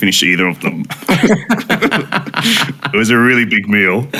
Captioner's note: all laughing